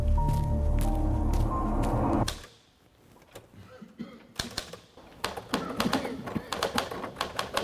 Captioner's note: typewriter keys